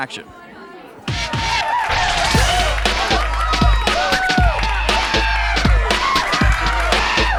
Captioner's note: audience cheering; upbeat music